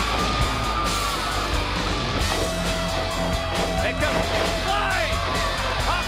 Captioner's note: crowd cheering